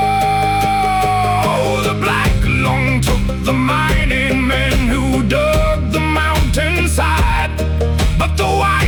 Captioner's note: screaming